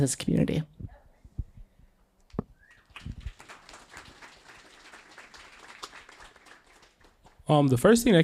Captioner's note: applause